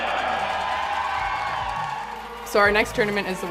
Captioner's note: crowd cheers